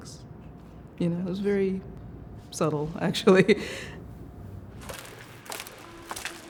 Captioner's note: laughs